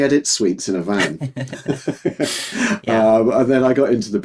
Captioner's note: both laughing